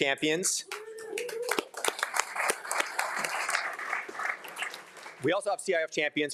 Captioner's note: everyone applauding; attendees cheering